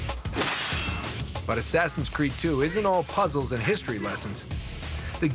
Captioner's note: slicing